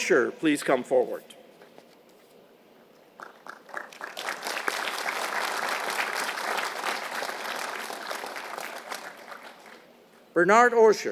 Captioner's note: applause